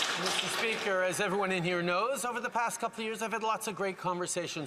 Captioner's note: some Applause